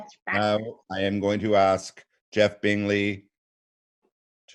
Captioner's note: laughing